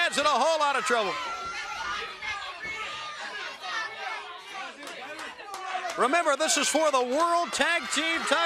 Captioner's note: crowd chatter